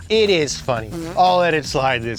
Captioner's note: buzzing sound